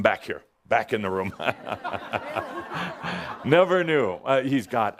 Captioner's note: laughter as Adamus motions to “grab” Mr. Mandela and bring him back